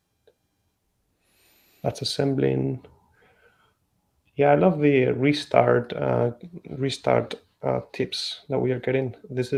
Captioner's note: none